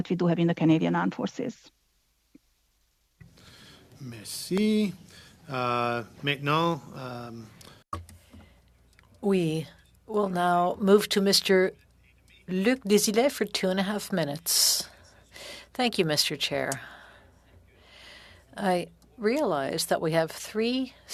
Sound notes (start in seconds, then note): 11.7 speaking French